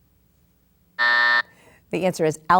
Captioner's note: buzzer sounds